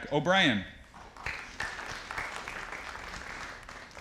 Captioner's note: audience applauding